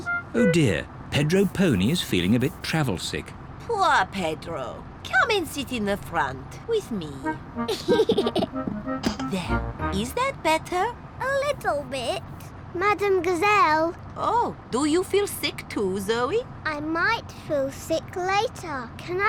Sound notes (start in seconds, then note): 7.6 giggles